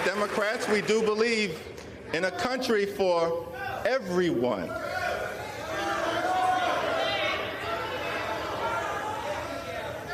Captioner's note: applause; applause